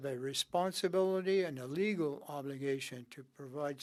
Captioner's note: speaking French